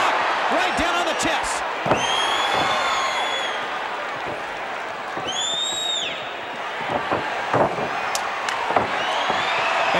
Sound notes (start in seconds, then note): 5.3 person whistles